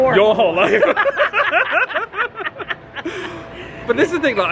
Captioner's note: pair laughing